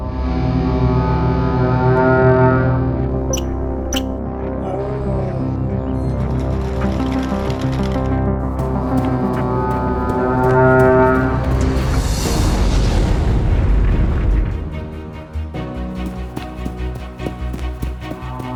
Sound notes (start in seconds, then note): 0.2 dramatic music; 0.2 horn blasts; 3.3 animal chirping; 3.5 dramatic music; 6.1 bird wings flapping; 8.9 dramatic music; 8.9 horn blasting; 13.3 feet thumping; 13.3 gentle music